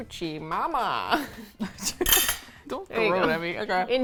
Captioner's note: both laugh